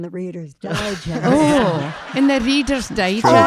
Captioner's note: audience laughing